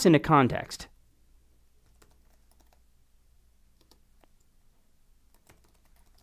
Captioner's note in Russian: щелчки клавиатуры